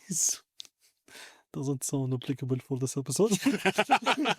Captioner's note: laughter